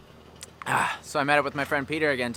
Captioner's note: grunts